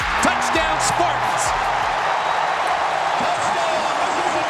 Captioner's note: crowd cheering